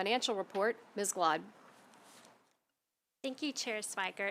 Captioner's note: silence